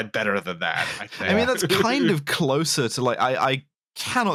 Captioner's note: chuckles